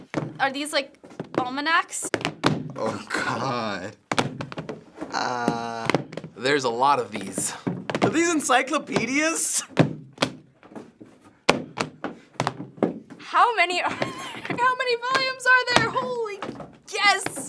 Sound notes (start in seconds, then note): 2.2 loud thuds; 9.6 loud thuds; 13.4 laughs